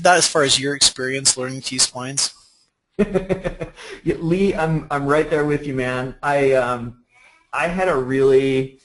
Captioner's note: laughter